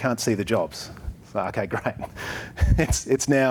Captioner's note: chuckles